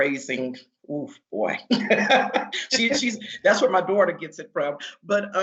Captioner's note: laughing